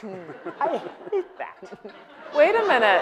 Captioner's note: audience laughing